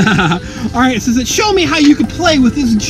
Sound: laughing

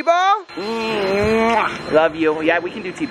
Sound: kisses

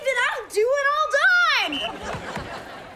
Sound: whistle blowing

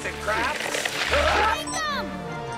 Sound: screaming

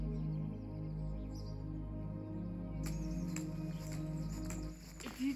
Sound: birds chirping

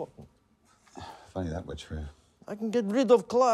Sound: sighs

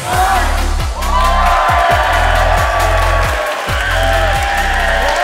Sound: crowd cheers; energizing music

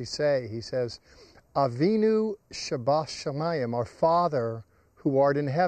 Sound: speaking in Hebrew

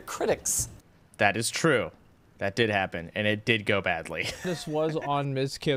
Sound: laughter

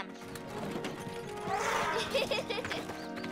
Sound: trumpets; laughs

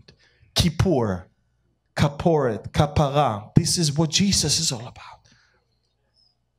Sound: Hebrew

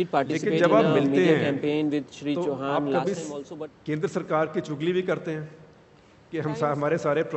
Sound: Arabic language

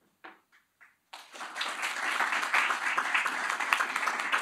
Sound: applause

